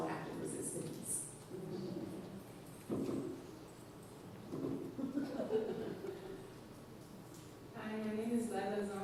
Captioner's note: laughs